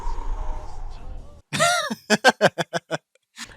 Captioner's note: laughter